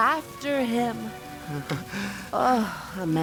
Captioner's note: chuckles